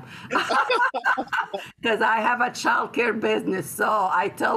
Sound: laughter

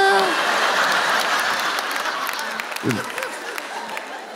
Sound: laughter

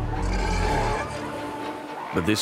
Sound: roars

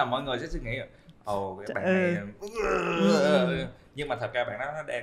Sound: grunt

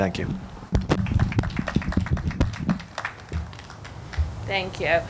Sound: audience clapping

